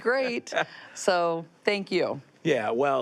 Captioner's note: laughs